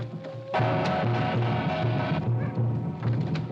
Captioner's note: drum beating; whipping sound; Mowgli howls; gong rings loudly; drum beating